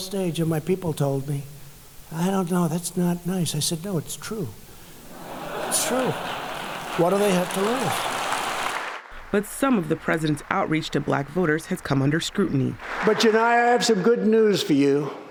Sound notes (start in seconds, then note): 5.1 laughter; 8.6 applause